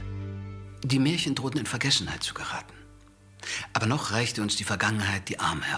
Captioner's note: speaking in foreign language